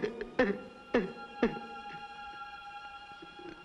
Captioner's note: crying